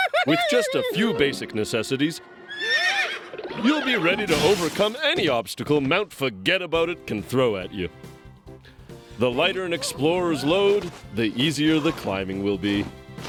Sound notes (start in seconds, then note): 0.0 laughter; 2.2 whinnies